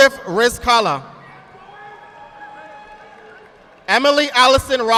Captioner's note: audience applauding